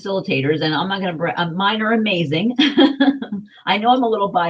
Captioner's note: chuckles